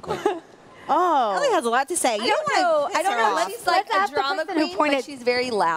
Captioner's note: laughter